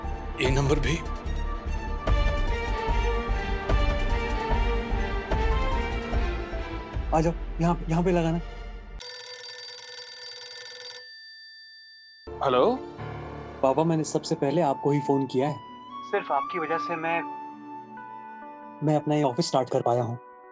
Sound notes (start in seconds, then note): 2.0 pensive music playing; 9.0 phone ringing